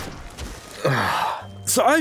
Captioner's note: groans